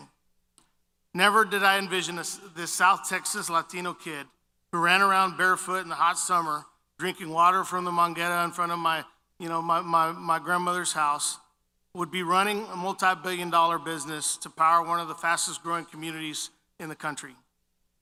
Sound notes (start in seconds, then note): 8.1 foreign language